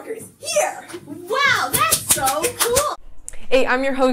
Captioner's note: clapping